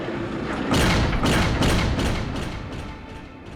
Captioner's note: door closing